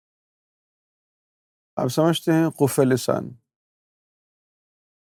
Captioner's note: in Arabic